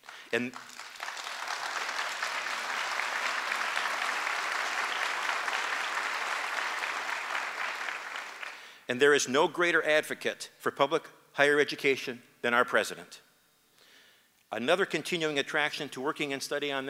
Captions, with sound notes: [ APPLAUSE ] AND THERE IS NO GREATER ADVOCATE FOR PUBLIC HIGHER EDUCATION THAN OUR PRESIDENT. ANOTHER CONTINUING ATTRACTION TO WORKING AND STUDYING